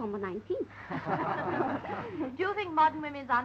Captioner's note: laughing